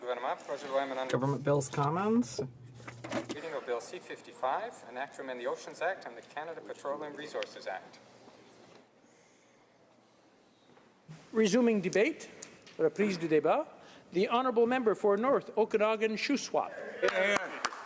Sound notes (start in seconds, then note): 6.3 speaking French